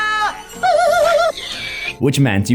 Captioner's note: native battle cry and pig squeal